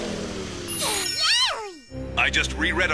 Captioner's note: film stops; happily